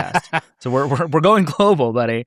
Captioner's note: laughs